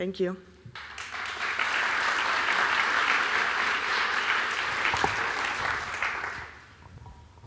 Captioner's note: applause